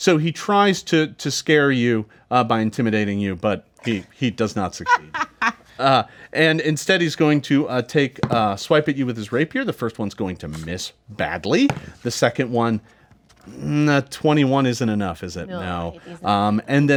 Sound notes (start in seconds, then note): 4.8 Tariel chuckles